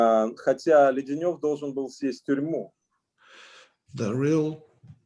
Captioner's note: speaking Russian language